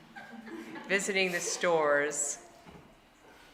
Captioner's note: audience laughing